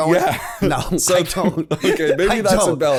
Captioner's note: laughter